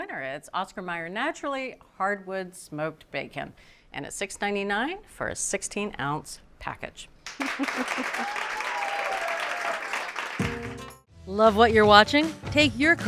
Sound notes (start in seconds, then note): 7.3 cheers and applause; 7.3 laughs